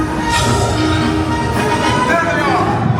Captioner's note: droids beeping and buzzing; music continues; doors hissing